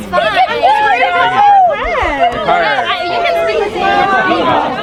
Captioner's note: people chattering